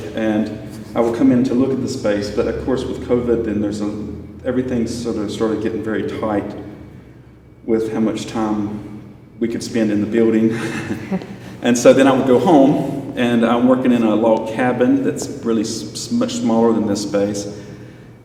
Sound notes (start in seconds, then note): 10.5 laughs